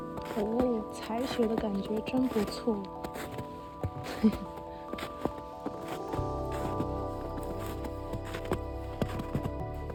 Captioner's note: I'm giggling